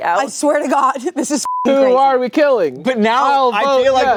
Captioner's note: beep